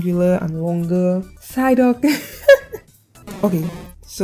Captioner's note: laughing